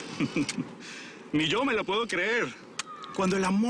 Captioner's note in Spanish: Ríe